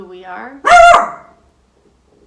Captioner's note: dog barks